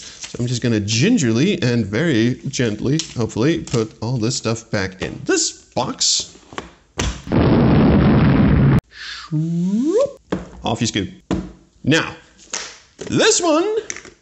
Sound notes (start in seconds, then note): 7.2 cacophonous explosion; 8.9 slidey-swoop noise; 12.1 high-pitched voice